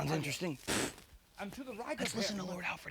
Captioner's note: scoffs